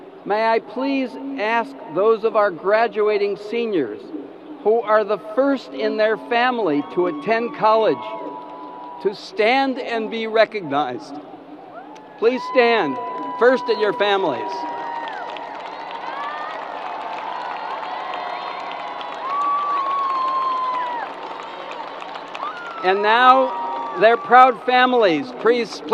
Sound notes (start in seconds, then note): 14.7 crowd applause